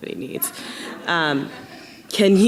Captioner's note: audience laughing